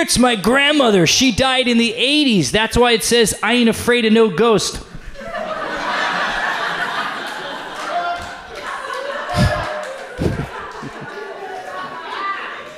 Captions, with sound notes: "It's my grandmother, she died in the '80s. That's why it says, 'I ain't afraid of no ghost.'" (audience laughs)